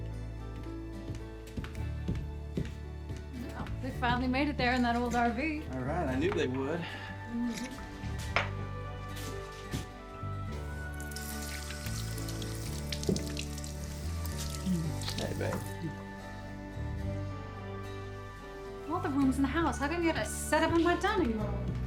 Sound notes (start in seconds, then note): 0.0 footsteps approaching; 10.6 water running; 14.5 kisses